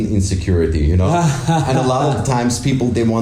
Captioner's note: laughs